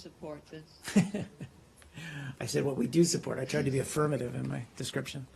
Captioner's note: laughter